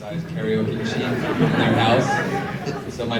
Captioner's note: audience laughs